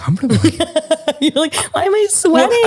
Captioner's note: laughs